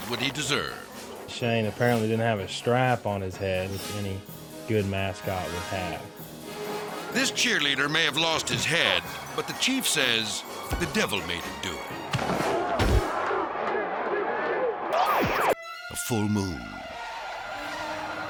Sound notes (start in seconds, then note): 12.1 mascots thud; 12.8 crowd cheering; 16.6 dramatic music